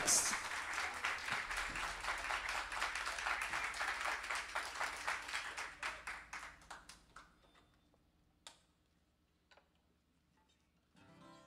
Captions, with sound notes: That one's called, "Know What's Next" (clapping)